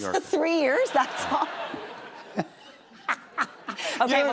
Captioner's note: laughter